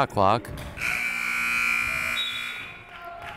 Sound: buzzer

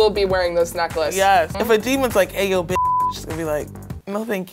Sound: beep

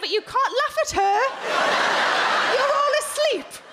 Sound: crowd laugh

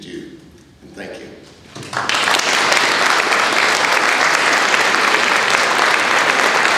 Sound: audience applause

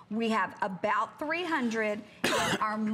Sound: coughing

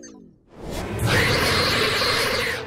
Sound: screeching; screaming

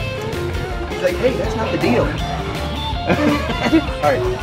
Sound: laughs

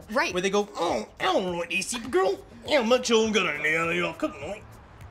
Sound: talking with thick accent

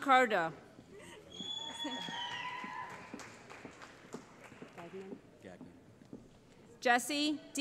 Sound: cheering

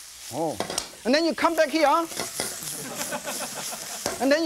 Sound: audience laughs

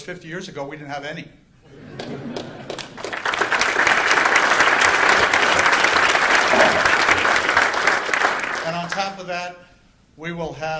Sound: applause

